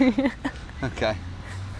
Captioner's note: laughs